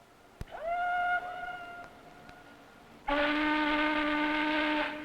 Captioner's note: ship horns blaring